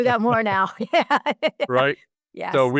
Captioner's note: laugh